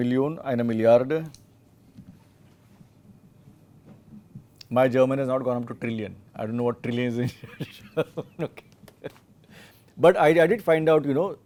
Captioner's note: laughs